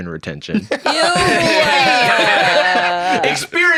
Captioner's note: laughing